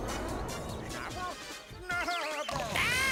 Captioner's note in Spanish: llora